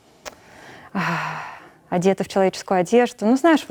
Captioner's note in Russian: вздыхает